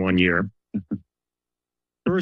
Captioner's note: chuckles